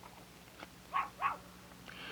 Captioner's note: dogs barking